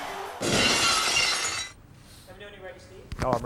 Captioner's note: glass shatters